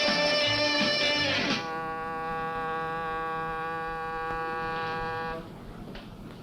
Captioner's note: horn blares